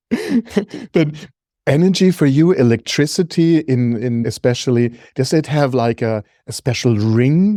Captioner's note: laughs